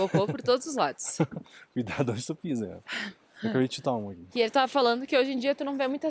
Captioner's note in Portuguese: risadas